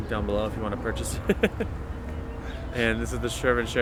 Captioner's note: laughs